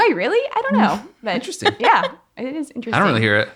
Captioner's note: laughing